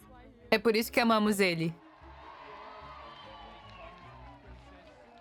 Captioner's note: crowd cheering